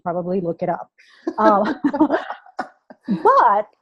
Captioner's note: laughter